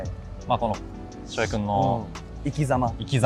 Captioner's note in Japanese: 鼻息